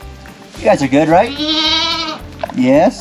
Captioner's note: goats bleating